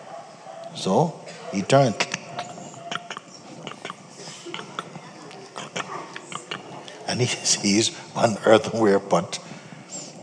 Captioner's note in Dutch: klik klak